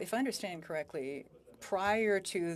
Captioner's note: speaking French